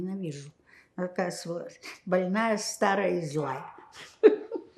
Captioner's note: laughing